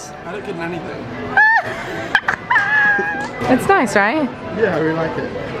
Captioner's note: laughing